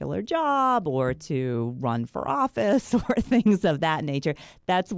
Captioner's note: laughs